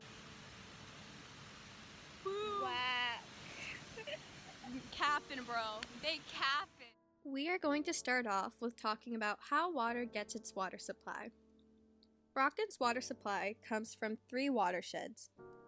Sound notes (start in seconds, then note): 2.2 mid-yawn